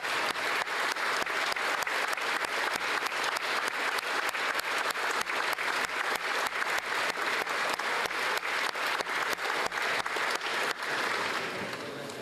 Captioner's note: applause